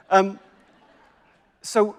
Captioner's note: crowd laughs